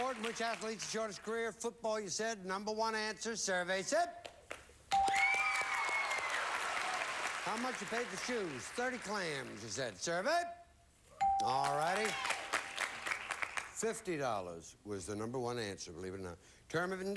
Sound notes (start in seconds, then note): 5.0 audience applauding; 11.5 audience applauding